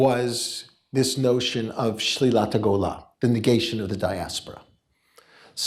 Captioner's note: hebrew